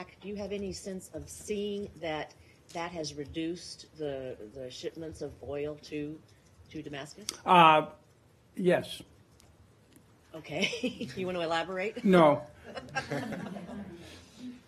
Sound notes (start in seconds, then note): 10.6 laughter